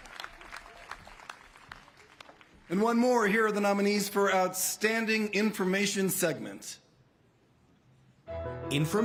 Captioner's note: applause